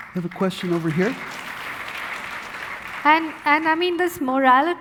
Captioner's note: audience applauding